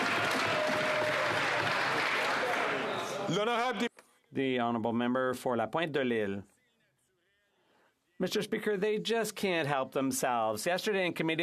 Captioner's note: some Applause